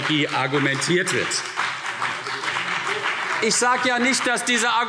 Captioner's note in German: Beifall CDU und BÜNDNIS 90/DIE GRÜNEN